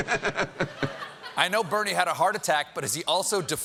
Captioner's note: laughter